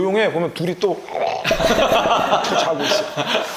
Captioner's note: snores